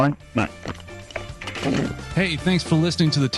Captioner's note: telephone handset clunks